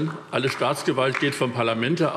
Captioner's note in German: Vereinzelter Beifall DIE LINKE